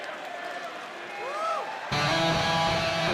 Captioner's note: cheers and applause